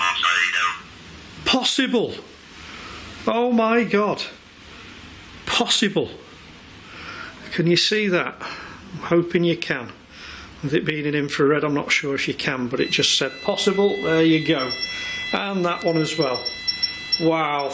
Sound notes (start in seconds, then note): 12.7 machine beeping